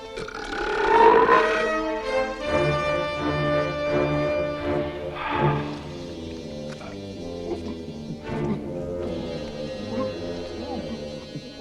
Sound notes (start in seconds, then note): 0.0 Torente belches; 6.4 Torente sighs; 7.9 Torente gulping